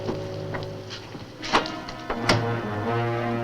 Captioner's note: lock clacks; dark music continues